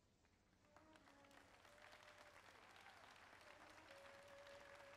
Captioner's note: audience applauding